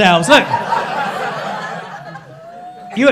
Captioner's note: crowd laughing